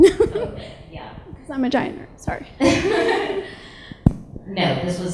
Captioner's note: laughs; laughs